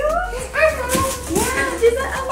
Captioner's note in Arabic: تثرثر بحماس